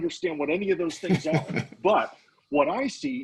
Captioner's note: laughing